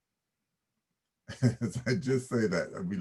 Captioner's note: chuckles